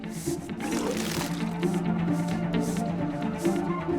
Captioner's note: retching